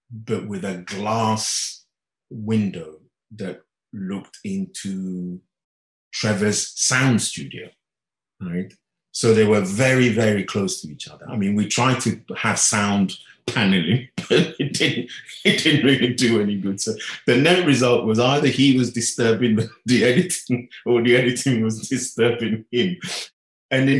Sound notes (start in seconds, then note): 13.5 laughing